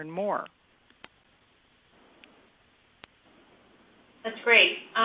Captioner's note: silence